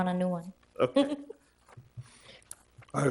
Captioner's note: laughing